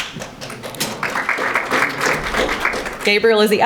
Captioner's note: audience applauding